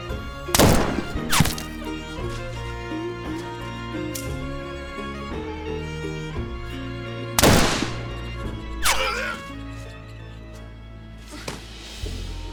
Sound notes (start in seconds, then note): 4.1 pistol clicking; 7.4 gunshot banging; 8.9 Oliver groaning